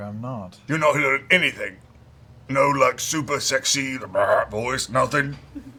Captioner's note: low-pitched growl